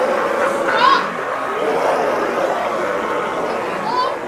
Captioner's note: demonic roars and snarls